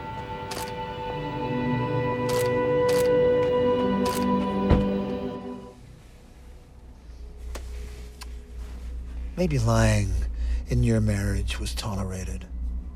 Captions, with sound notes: (camera clicking) (suspenseful music continues) - Maybe lying in your marriage was tolerated,